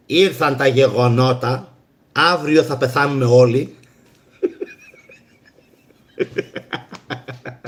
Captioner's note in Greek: γέλια